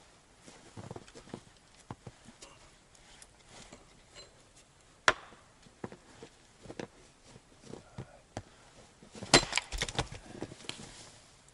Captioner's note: axe blows